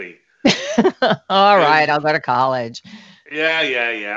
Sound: chuckles

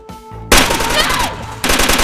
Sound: gun firing

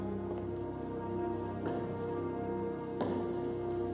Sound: footsteps Continue

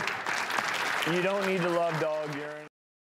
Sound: audience laughs and applauds

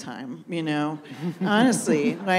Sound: audience laughs

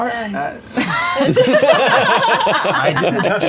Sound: laughter

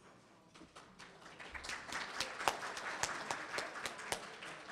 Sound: audience applauds

